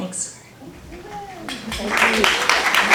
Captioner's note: applause